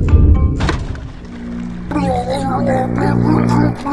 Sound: electricity surging, Anthony groaning

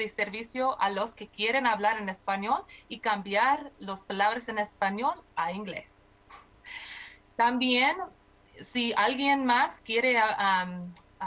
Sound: speaking spanish

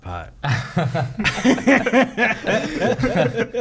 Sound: laughing

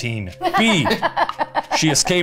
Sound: laughing

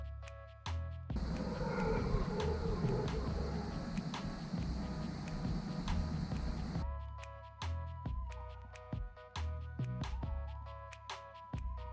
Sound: howls of howler monkeys

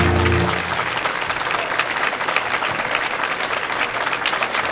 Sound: audience applauding

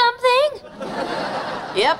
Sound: laughing

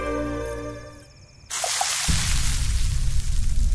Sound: spluttering

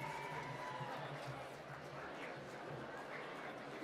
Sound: applause

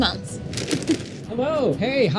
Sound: crunches

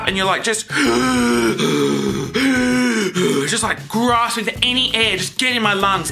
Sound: gasping

